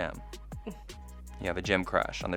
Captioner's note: laughs